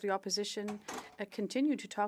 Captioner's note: speaking French